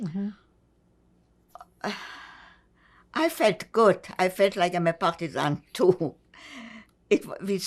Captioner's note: sighing